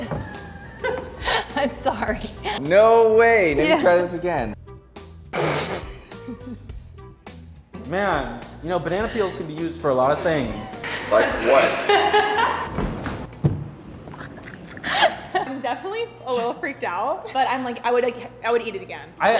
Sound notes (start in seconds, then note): 0.0 laughing; 6.0 laughing; 12.5 laughing